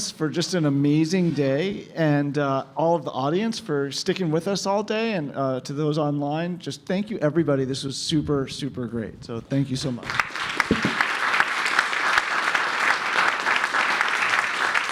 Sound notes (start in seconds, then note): 10.0 applause